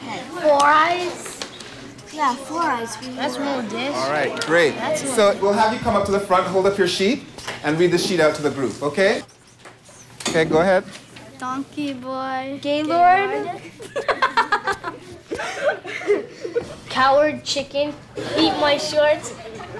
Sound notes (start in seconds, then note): 13.6 laughing